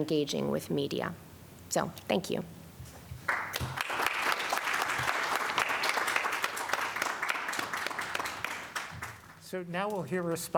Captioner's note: applause